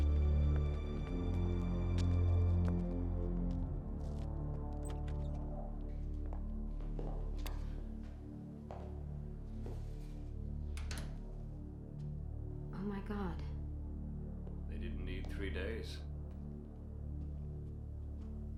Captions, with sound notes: (lights click on) (door shuts) - Oh my God. - They didn't need three days.